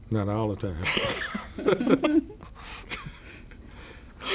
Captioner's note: laughter